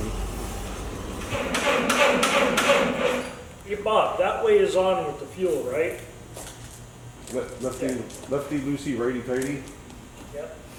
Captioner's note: engine cranking